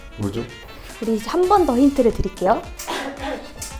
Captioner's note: murmuring sounds; murmuring sounds